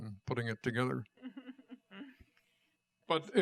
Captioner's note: laughter